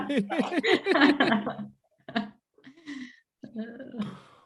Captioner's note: group laughing